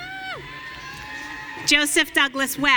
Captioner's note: audience cheering